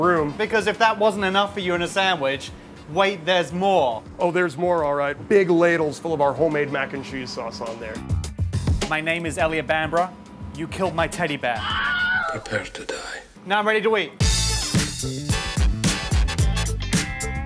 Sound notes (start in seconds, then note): 11.5 scream; 14.2 upbeat music